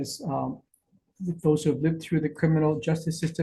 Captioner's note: speaks faintly